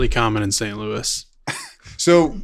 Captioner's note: laughs